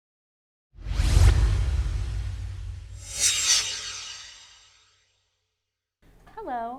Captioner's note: swoosh